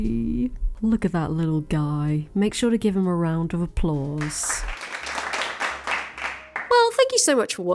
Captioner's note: audience Claps